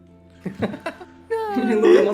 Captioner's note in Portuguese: risos